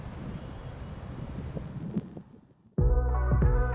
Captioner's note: night crickets; upbeat Music